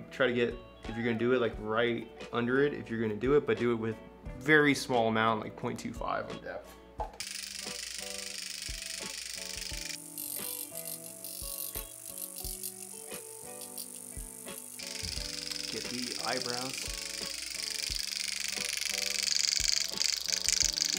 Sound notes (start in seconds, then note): 7.6 light upbeat music; 7.6 microneedle clacking; 18.0 microneedle clacking